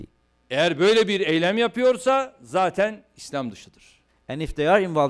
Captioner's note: non-english speech